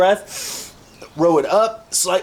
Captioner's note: more glorious inhalations